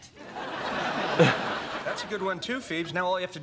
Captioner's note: audience laughs